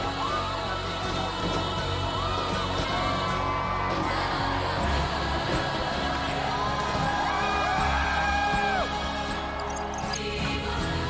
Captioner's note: cheers